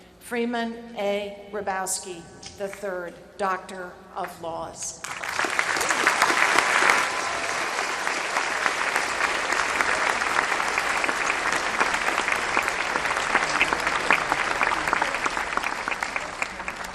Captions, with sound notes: Freeman A Hrabowski, the III, Doctor of Laws. [APPLAUSE]